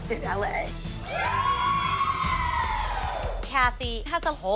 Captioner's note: cheering